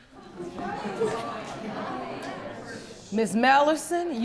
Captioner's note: audience murmuring